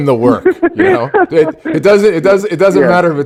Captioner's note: laughing